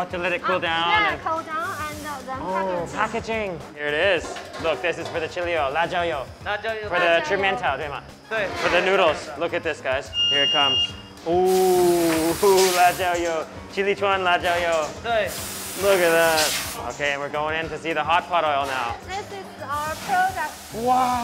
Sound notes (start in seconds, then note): 6.0 speaks mandarin; 13.3 speaks mandarin